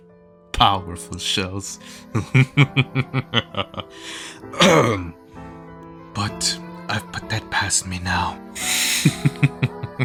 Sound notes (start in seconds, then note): 2.2 devolves into laughter; 8.7 chuckles